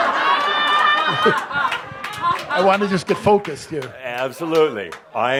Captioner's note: laughter